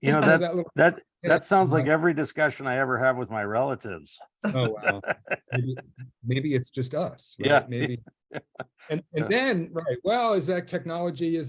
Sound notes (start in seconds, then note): 4.5 he laughs